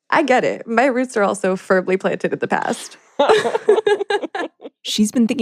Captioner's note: both laugh